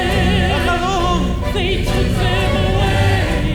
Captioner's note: performer speaking Arabic